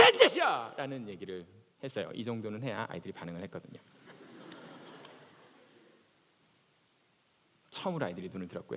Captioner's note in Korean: 웃음